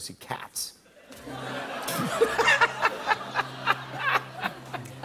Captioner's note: laughter